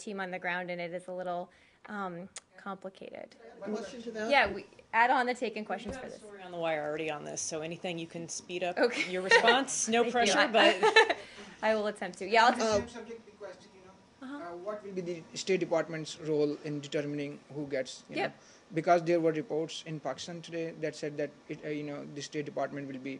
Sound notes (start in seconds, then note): 10.6 laughter